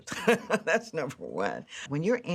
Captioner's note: chuckles